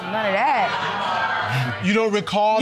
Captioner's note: audience groans